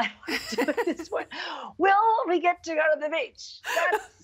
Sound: laughing

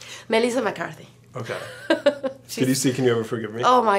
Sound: Marina laughs

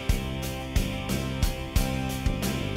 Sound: none

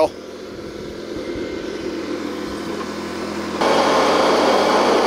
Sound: tractor engine runs; engine runs

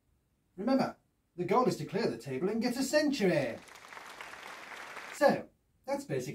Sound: short applause

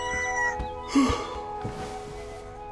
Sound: yawns

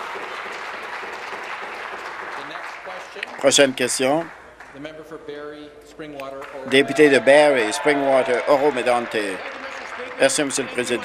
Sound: some Applause

